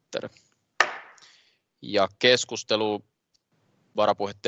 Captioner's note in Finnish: nuijan kopautus